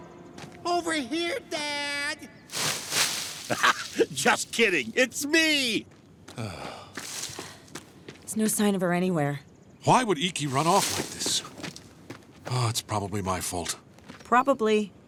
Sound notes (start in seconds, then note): 3.4 laughing; 6.0 groaning